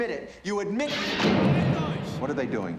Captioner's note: speaking german